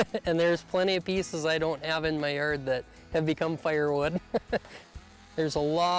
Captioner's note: laughs